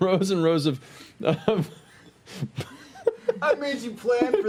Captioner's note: laughing